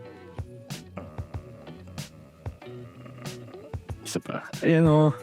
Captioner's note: grumbles